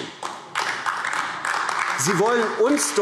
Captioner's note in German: Beifall AfD